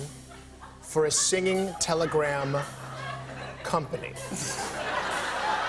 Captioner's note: laughter